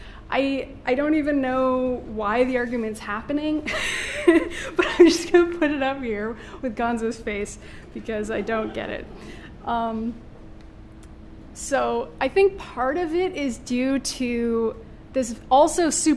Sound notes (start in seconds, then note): 3.7 laughing